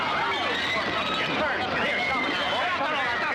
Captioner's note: clamoring